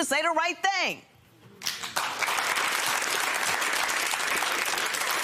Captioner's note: applause